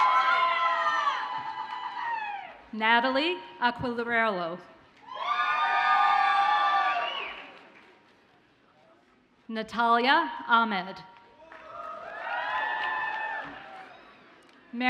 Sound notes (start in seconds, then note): 0.0 audience cheers and applauds; 5.0 audience cheers; 11.4 audience cheers